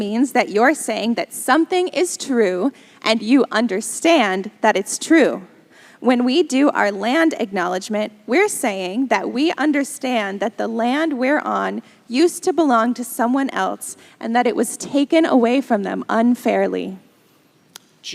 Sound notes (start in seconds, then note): none